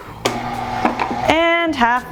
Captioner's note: mixer whirring